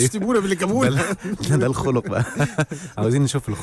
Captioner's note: laughs!